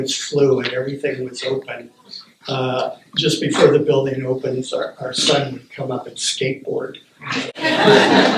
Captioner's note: laughter